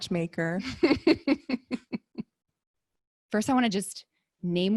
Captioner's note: laughs